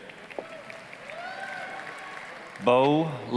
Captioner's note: applause, cheering